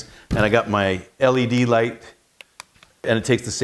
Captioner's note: switch clicking